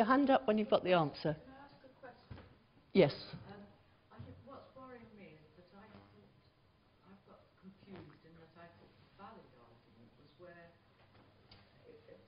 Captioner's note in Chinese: 無聲